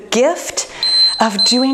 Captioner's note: timer beeping